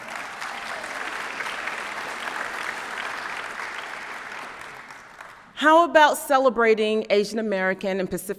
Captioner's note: applause